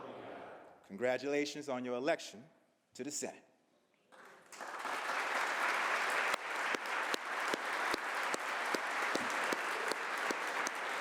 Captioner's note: applause